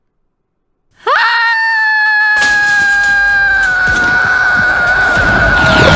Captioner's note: screams